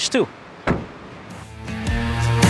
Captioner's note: door closes; upbeat rock music